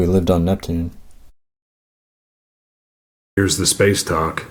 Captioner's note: silence